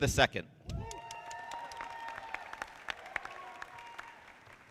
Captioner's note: audience applauding